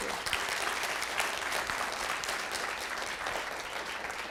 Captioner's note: audience applauds